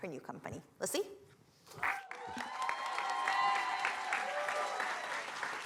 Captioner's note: cheering, applause